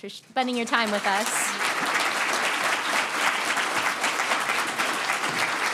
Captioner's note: students applauding